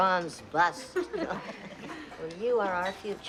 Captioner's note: laughing